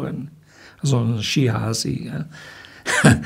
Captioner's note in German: lacht